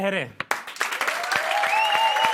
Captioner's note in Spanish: Aplausos